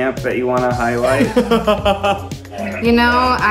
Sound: laughing

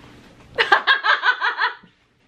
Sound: laughing

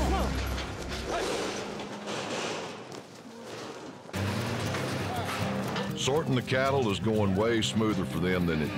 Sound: hoof beats, gate clanking

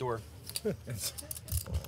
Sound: laughing

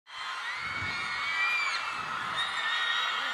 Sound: crowd cheering

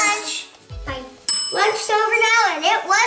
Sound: bell rings

